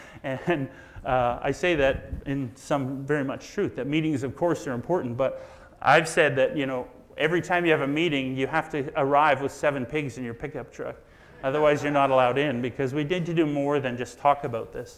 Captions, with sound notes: And I say that in some very much truth. That meetings of course are important, but I've said that, you know, every time you have a meeting, you have to arrive with seven pigs in your pickup truck. (audience laughs) Otherwise you're not allowed in because we need you do more than just talk about this.